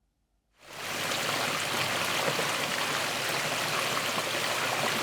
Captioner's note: water flowing